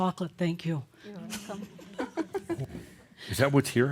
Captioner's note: she chuckles